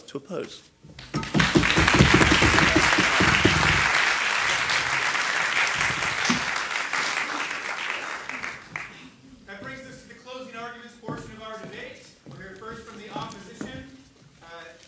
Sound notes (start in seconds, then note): 1.0 audience applauding; 9.6 voiceover